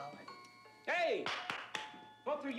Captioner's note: Oskar claps